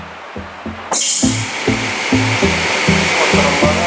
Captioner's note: machine sound